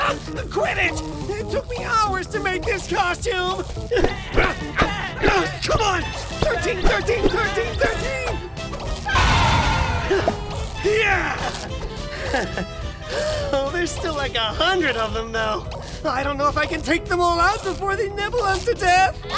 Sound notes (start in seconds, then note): 9.0 baa of instant death; 11.5 panting